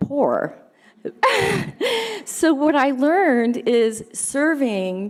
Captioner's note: laughing